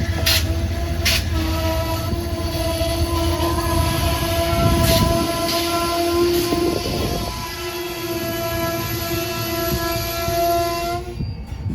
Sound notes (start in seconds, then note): 1.8 screeching for a stop